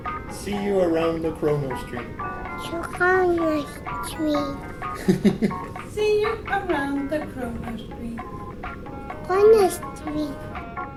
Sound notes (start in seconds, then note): 4.6 proud dad giggles